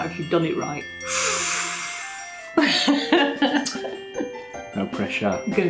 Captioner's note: sharp intake of breath